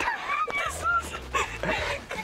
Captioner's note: laughs